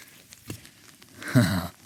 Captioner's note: water running